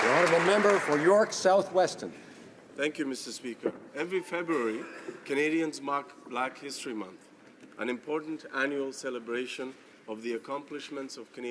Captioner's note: applause